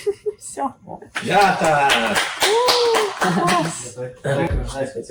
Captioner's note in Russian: Аплодисменты